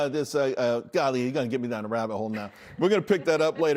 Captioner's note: laughter